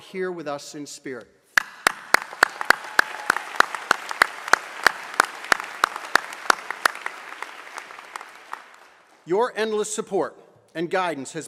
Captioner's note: applause